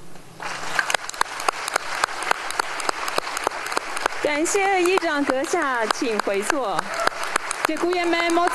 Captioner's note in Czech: applause